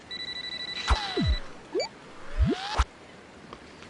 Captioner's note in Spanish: Suena el celular